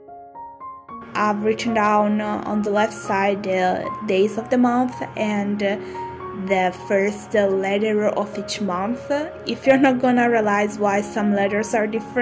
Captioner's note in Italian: in italiano